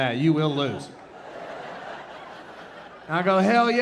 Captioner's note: audience laughing